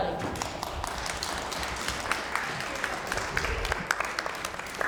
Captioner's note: applause